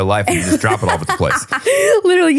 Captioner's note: laughing